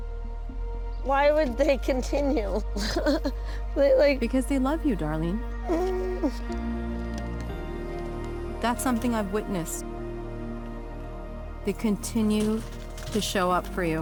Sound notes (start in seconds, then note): 1.6 chuckles; 5.6 whimpers